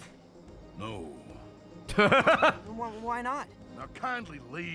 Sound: laughs

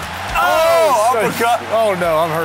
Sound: screams

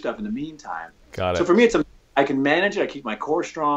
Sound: audio skips

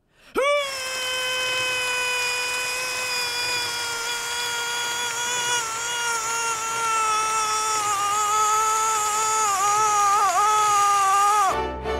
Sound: retches; string music interlude

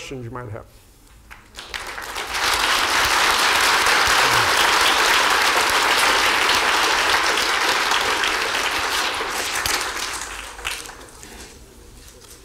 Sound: applause

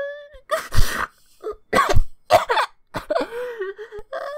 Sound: coughing

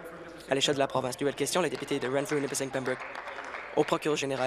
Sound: applause

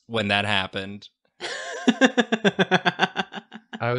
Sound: laughter

